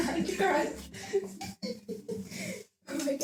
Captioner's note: laughs